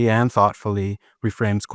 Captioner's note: none